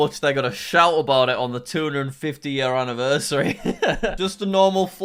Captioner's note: laughing